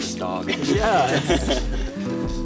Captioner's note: laughs